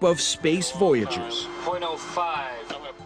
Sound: radio chatter

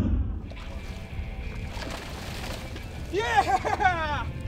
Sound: water splashes

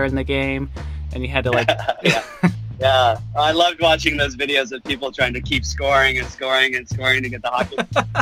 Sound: laughs

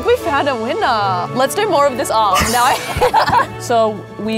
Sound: both laughing

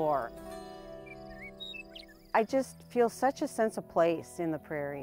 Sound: bird sings

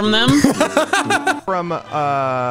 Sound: laughing

